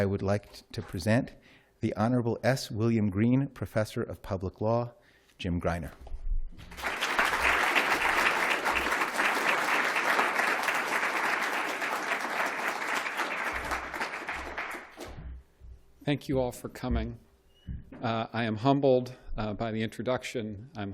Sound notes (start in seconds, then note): 6.4 applause